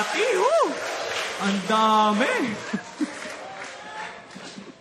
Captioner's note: chuckles